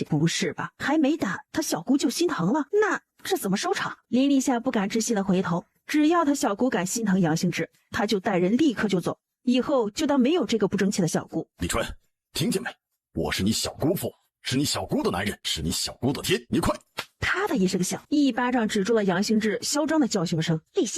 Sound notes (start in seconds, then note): 16.9 slap!